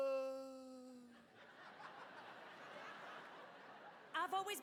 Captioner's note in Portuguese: audience laughing